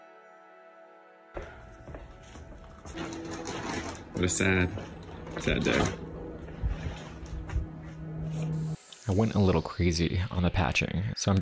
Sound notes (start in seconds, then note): 1.3 footsteps tapping; 2.5 tarp rustling